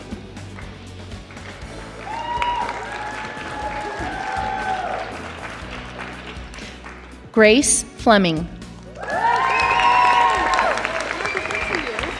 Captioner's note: applause